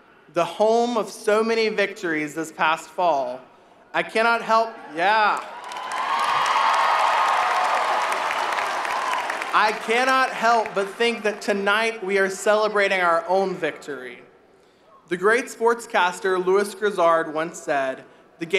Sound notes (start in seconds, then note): 5.1 audience applauding